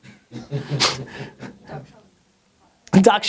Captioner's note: laughter